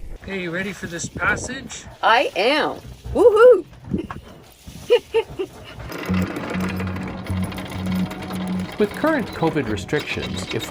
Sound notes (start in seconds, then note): 4.7 laughing; 5.0 chain rattling